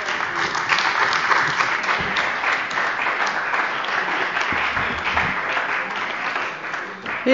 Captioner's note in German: Beifall bei der CDU und dem BÜNDNIS 90/DIE GRÜNEN